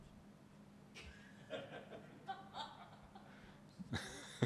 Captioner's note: laughing